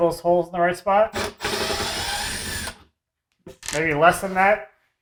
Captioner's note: drill whirring